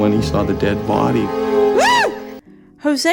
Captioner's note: Mulder shrieks